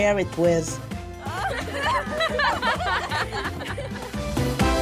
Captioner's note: laughter